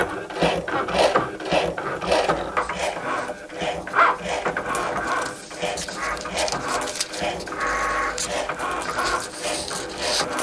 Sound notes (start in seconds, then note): 5.2 foil crinkles